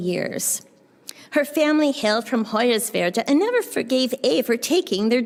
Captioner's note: german